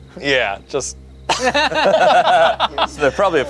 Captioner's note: everyone laughs